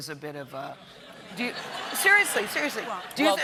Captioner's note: laughter